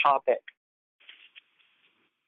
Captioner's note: silence